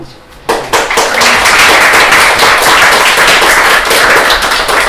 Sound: applause

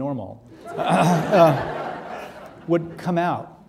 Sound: audience laughing

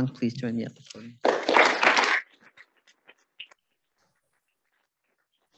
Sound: audience applauding

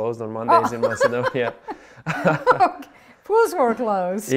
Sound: laughs

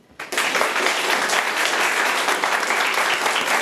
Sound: room applauds

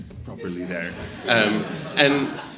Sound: audience laughs

